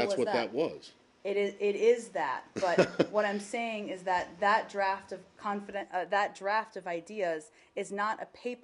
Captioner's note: laughter